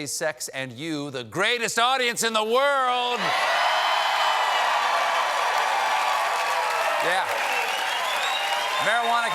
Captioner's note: cheers and applause